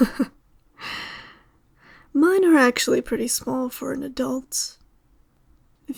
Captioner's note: laugh